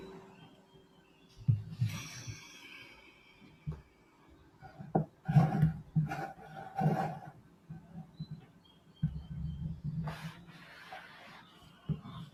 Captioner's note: silence